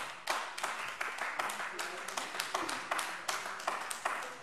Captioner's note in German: Beifall AfD